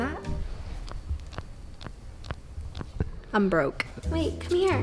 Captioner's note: wrist cracks